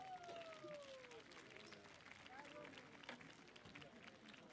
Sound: audience applauding

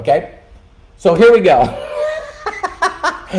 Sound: laughing

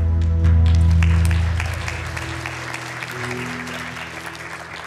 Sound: congregation clapping

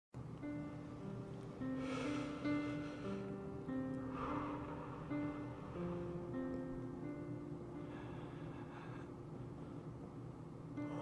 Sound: gentle piano music; breathing, calming self

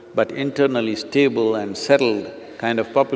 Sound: none

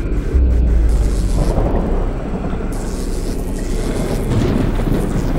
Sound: unsettling music; electrical fizzling; thunder rumbling

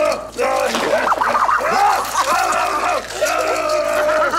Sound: laughs

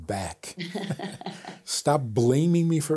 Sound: both laughing

